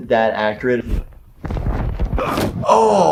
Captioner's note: grabbing sound; groaning man